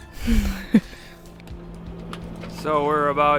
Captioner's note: laughing